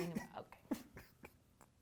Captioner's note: sobbing